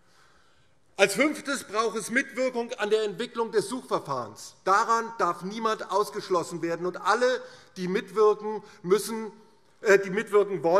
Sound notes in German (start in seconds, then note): none